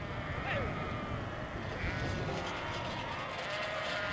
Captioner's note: sheep bleating